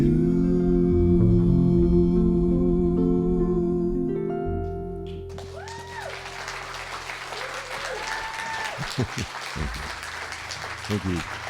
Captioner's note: applause